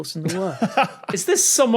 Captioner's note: laughs